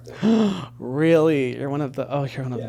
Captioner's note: gasping